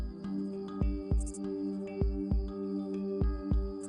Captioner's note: sound of Crickets